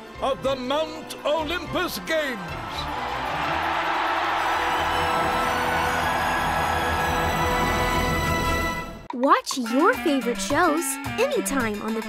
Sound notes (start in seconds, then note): 2.6 audience cheers; 2.6 upbeat music